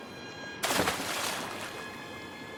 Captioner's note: splashing